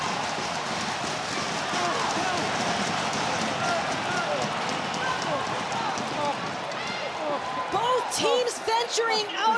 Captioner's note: crowd cheering